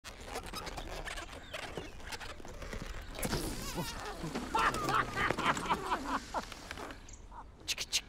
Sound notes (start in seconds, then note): 0.1 balloon squeaks; 3.6 party guest laughs